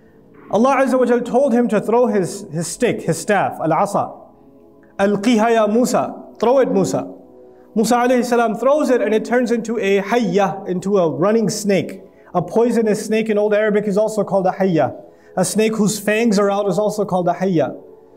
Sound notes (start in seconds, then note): 4.4 Arabic